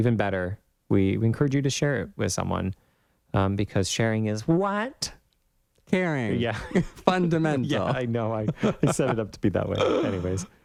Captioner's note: laugh